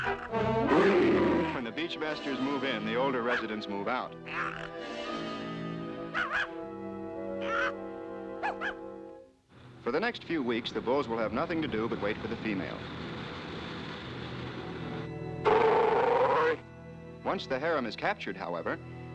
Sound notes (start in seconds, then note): 0.0 growls; 5.9 barking; 15.4 growling